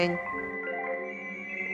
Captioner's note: cell phones ringing